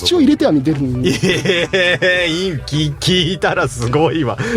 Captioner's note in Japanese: 笑い